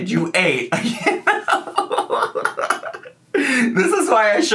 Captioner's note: laughing